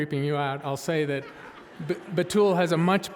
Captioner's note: audience laughing